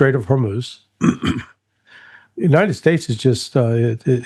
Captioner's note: clears Throat